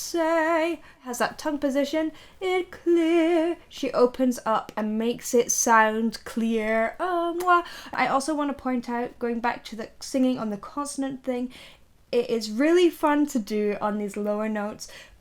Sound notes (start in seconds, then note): 6.8 lips smack